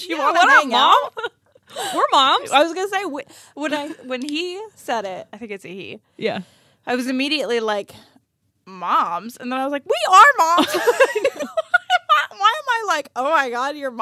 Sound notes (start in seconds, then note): 10.5 laughing